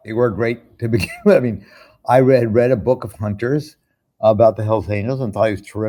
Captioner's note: chuckles